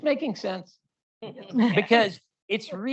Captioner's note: laughter